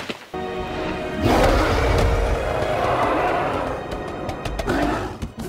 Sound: animal growling

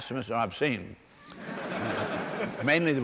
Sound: laughter

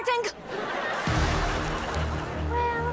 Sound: fuse sizzling

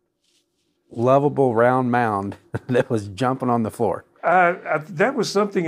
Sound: laughs

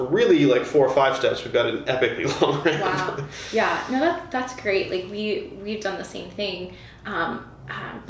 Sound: laughter

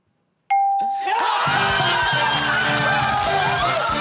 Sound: cheering

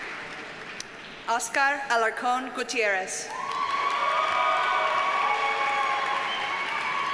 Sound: audience cheers and applauds

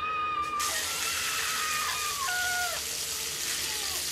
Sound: Zara screams; Zara sizzling

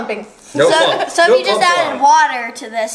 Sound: people talking

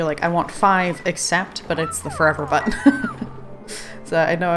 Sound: laughs

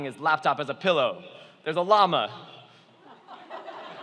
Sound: laughing

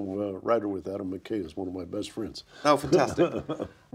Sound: laughs

